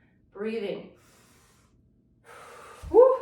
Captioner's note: breathing deeply